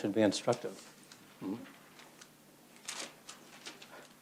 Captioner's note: laughs